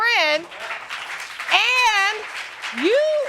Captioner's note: audience applauding